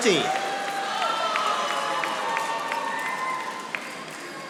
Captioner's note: audience applauding